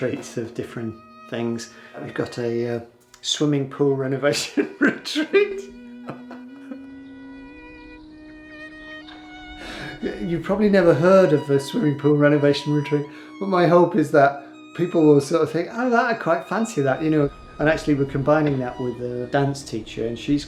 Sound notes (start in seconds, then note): 4.4 laughs; 6.7 sentimental music